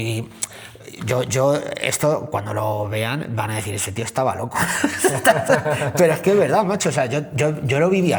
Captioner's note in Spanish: risas